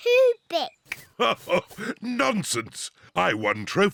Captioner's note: laughs